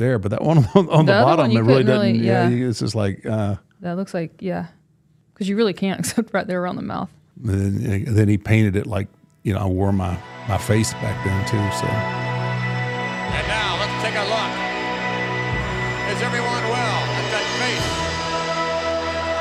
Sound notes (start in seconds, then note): 0.7 laughs; 6.2 laughs; 12.5 mournful organ music